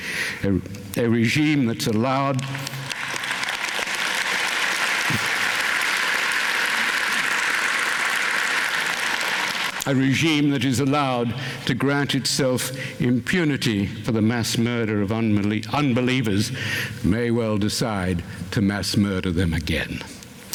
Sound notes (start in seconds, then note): 2.2 applause